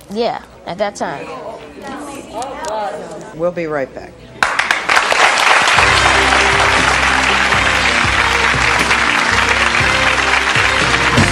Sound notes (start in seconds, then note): 1.0 audience murmuring; 4.4 audience applauding